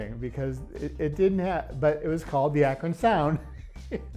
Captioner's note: laughs